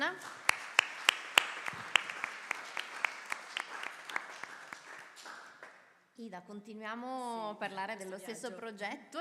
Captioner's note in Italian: Applauso